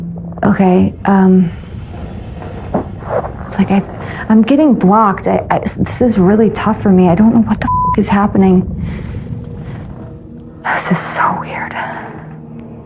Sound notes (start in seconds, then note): 4.9 statammmmerining; 8.7 exhxhalining